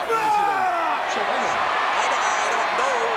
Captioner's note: audience cheers